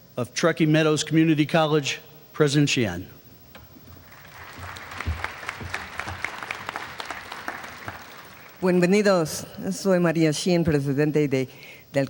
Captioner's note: applause